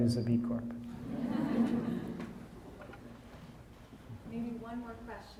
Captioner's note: audience laughing